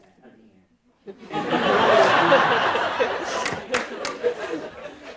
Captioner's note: audience laughing